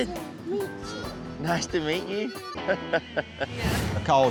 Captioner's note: chuckles